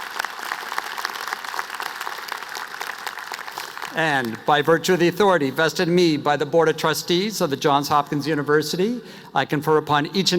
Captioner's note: applause